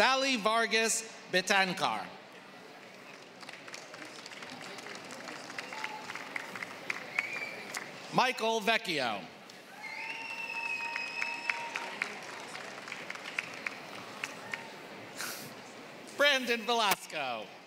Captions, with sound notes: >> Sally Vargas Betancourt. >> [APPLAUSE] >> Michael Vecchio. >> [APPLAUSE] >> Brandon Velasco.